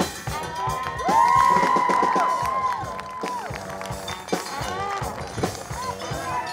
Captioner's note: audience cheers; audience applauds